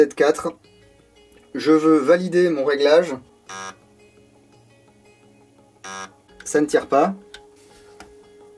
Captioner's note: two bips